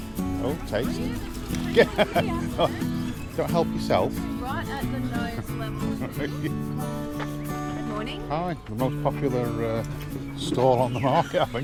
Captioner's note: laugh